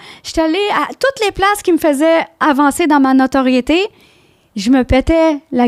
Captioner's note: in french